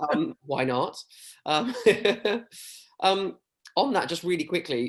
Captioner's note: chuckles